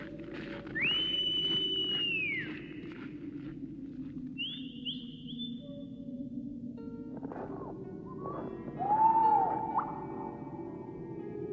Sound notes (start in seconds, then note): 0.8 whistling becomes louder; 8.1 hoots